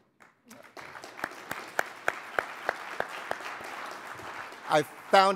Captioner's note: audience applauding